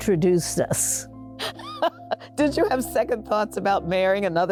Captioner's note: laughing